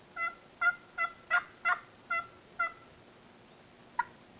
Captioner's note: turkey calling